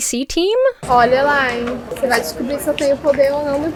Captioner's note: speaking Portuguese